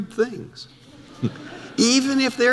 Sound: audience laughter

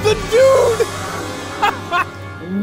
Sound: laughs

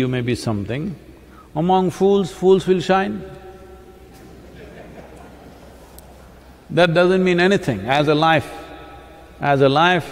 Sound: laughter

